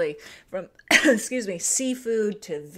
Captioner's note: coughs